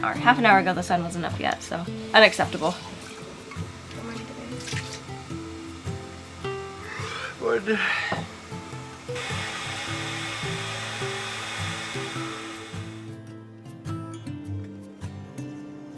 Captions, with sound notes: half an hour ago the sun wasn't up yet so unacceptable. Morning, babe. - (yawns) Morning. (kettle whooshing) (gentle music)